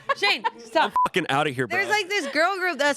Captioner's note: beep